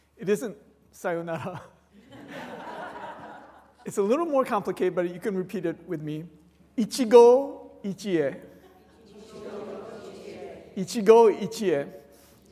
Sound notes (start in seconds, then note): 1.3 laughter